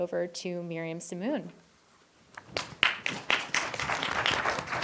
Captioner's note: applause